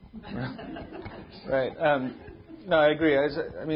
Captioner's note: audience laughing